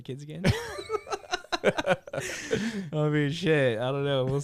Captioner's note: laughter